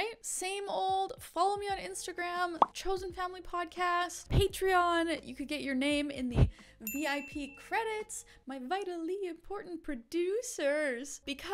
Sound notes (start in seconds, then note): 6.8 bell chiming